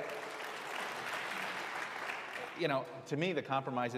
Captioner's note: applause